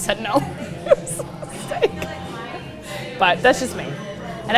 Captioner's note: laughs